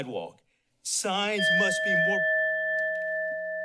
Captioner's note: bell dings